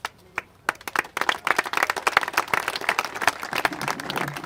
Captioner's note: congregation applaud